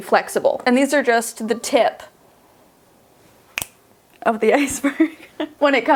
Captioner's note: snapping